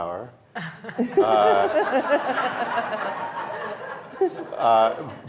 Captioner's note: audience laughing